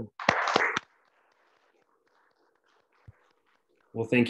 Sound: applauds

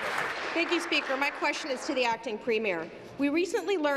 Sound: applause

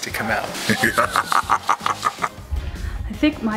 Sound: manic laughing

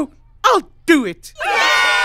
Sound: cheering

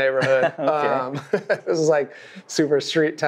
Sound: chuckles

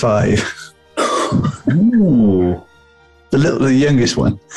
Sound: chortling

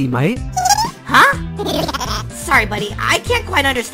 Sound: buddy cut boy giggling

